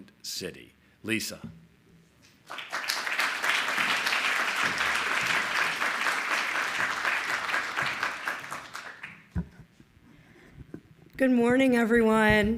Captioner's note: applause